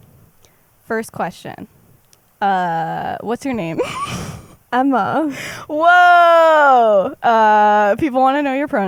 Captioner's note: laughs